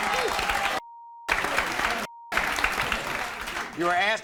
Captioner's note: beeps; audience applauds